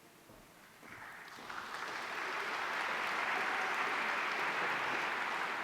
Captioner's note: audience applauding